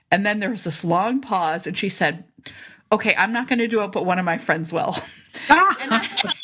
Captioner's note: laughter